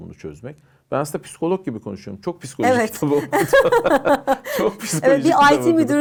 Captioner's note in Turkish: kahkaha